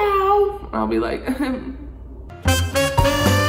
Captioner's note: chuckles; upbeat music